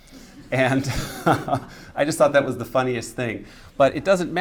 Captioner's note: laughs